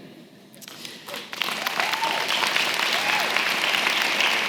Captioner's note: applause